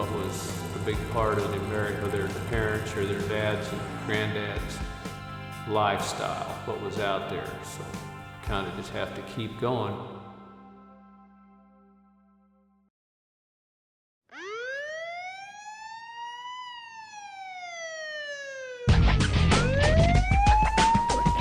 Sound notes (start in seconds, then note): 14.3 police siren; 18.9 rock music plays